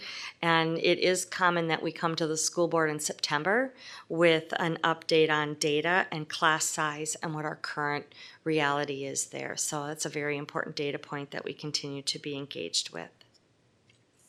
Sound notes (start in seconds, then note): none